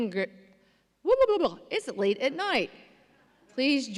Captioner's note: mutters